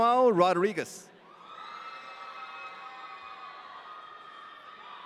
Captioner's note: audience cheering